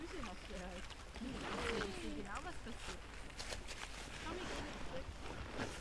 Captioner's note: people chattering in the background